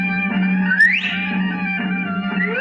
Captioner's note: whistles